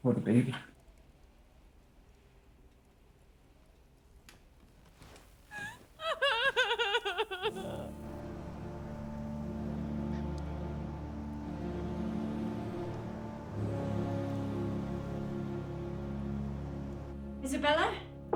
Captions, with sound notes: Or the baby. (crying) (soft dramatic music) - Isabella?